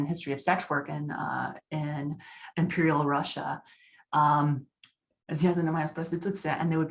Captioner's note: speaking russian